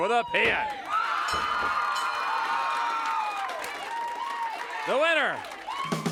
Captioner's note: audience cheers